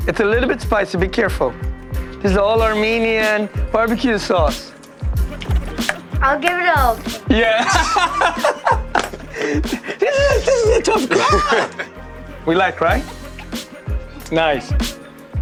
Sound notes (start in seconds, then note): 8.5 laughs